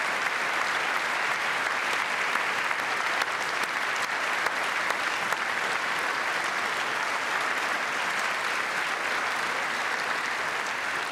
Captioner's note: applause